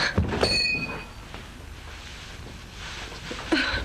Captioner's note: glass clinks